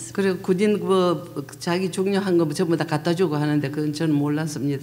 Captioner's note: speaking foreign language